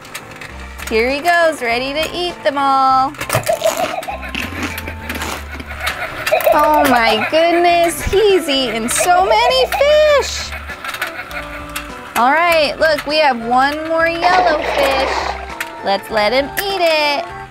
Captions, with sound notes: Here he goes ready to eat them all. (shark laughs) Oh my goodness, he's eaten so many fish. Alright, look we have one more yellow fish (water splashes) let's let him eat it.